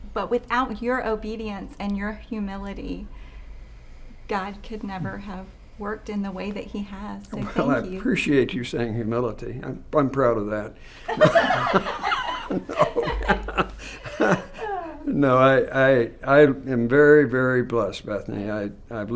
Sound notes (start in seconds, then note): 11.1 panelists chuckling; 11.1 laughing